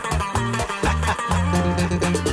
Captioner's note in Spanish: Risas